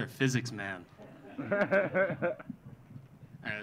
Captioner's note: audience laughing